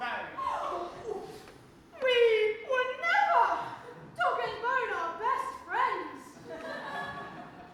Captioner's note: gasp; audience laughs